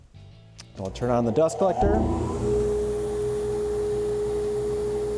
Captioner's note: mechanical startup